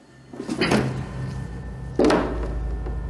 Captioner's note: sound of panel being wrenched off